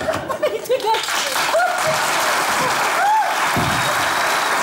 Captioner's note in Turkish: Alkış sesleri